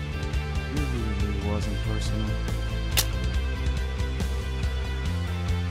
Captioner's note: gun cocks